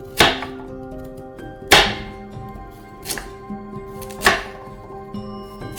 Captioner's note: knife thuds; knife thuds